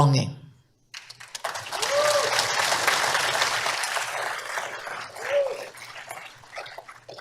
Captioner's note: applause